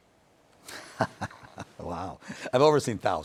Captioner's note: chuckles